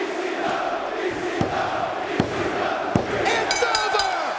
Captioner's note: spectators chanting "ECW!"; referee tapping mat; bell ringing